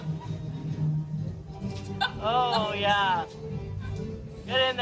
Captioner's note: woman laughs